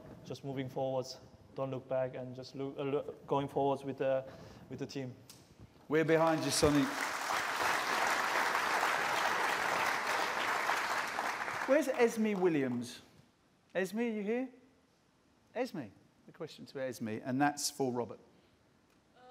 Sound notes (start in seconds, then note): 6.0 applause